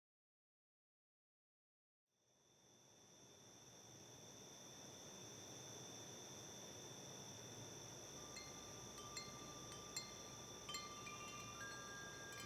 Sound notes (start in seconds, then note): 5.0 crickets; 8.2 wind chimes